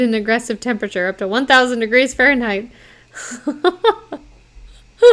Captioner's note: laughing